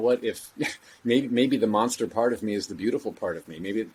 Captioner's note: chuckle